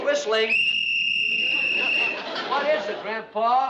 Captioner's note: whistle blows